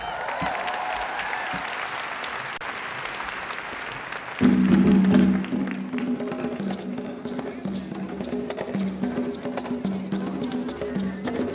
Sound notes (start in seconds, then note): 4.3 applause; 4.4 drum call